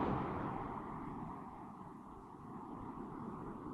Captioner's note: wind blowing